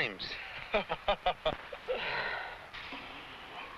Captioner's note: man laughs